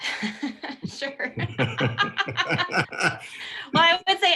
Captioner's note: laughter